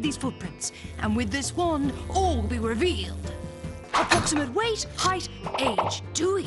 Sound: buzzing

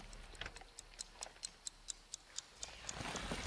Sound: watch ticking; ghostly voices whispering

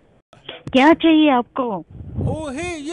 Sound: speaking Hindi

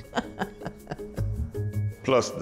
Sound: laughs

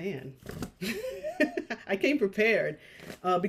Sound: chuckles

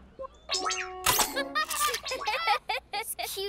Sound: laughter

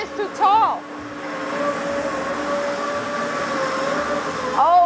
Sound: machinery whirring

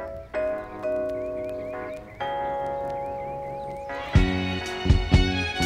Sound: birds chirp; upbeat music continues

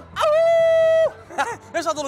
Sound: howls

